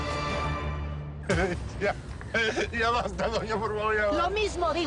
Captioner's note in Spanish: Sollozos